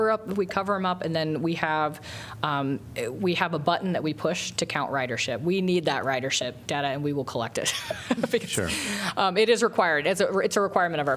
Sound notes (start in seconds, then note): 7.6 laughter